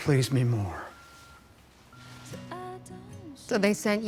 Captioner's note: beeping, music playing